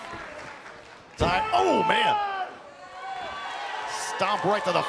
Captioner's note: crowd cheering